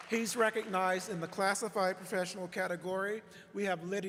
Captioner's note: applause